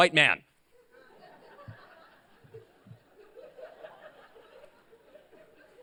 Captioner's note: laughter